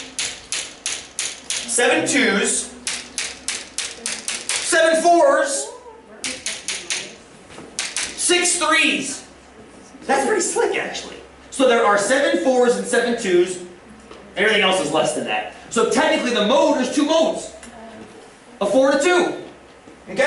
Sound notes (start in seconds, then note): 1.2 tapping